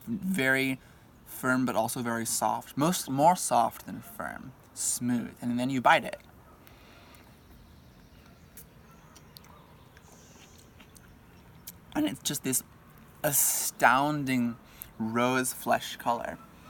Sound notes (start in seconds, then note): 8.9 chewing plum